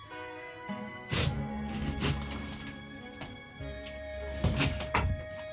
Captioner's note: Chris sniffling